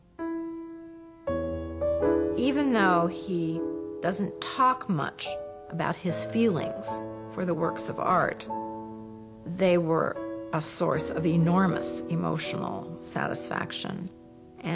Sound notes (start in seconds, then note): 0.3 gentle piano music; 2.6 voiceover